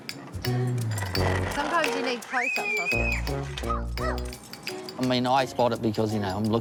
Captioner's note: squeals